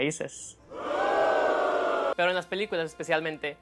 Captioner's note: audience booing